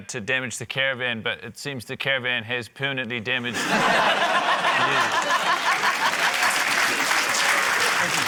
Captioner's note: laughter, applause